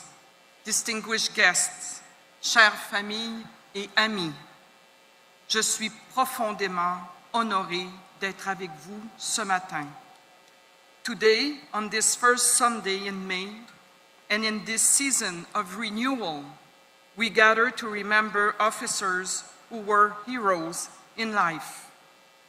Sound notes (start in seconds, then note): 8.2 speaking French